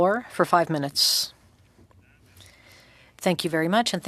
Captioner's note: speaking French